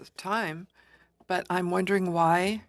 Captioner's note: speaking French